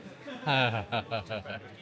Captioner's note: laughing